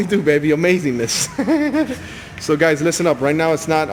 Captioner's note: laughs